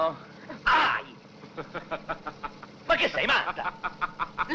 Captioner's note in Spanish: piero grita